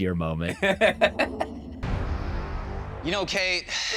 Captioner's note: laughs